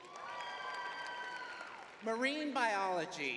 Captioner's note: crowd cheering